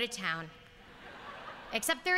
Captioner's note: laughter